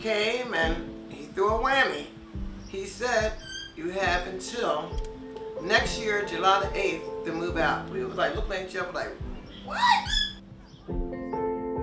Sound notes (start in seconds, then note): 3.2 door creaks; 9.4 parakeet screeches